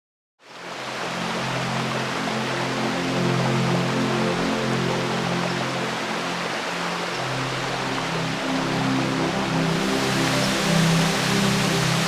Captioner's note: rushing water and background music